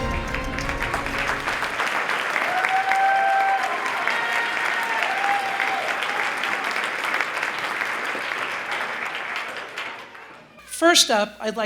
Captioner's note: applause